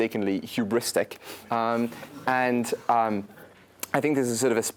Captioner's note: laugh